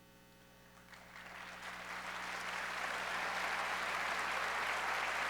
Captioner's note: audience applauds